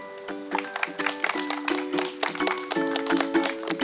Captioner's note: audience clapping; lively upbeat music